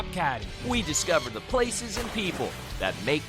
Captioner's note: bird squawks